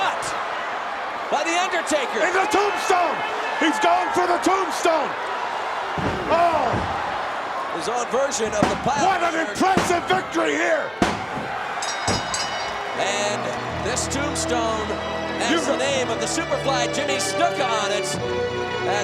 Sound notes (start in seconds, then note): 10.9 referee smacking; 11.7 bell dinging